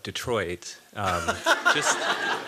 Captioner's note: laughter